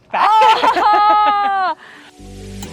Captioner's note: laughs